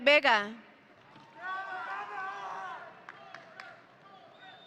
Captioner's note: audience cheering